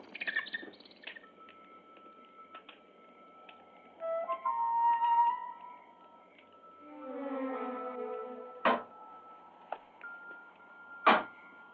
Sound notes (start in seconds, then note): 3.9 suspenseful music; 8.7 window banging